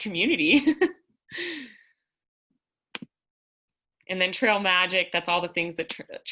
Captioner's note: laughter